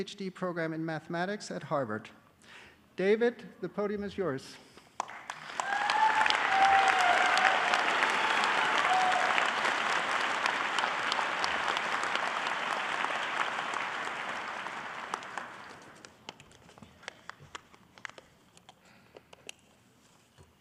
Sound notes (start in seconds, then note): 5.0 audience applauding